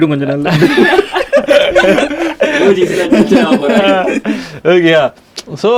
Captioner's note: group laughs